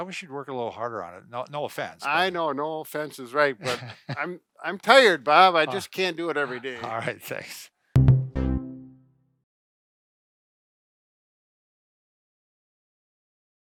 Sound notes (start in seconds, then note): 3.6 laughing; 7.9 upbeat music